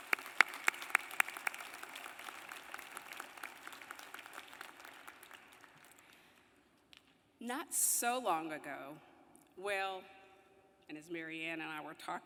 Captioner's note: applause